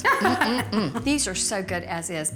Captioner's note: laughs